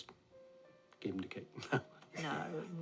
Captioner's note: laughs